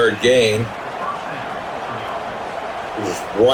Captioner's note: crowd Noises